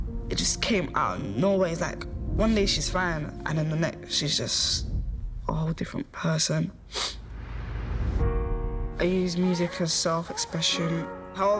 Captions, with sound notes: It just came out of nowhere. It's like, one day she's fine, and then the next, she's just... a whole different person. (sniffles) I use music as self-expression.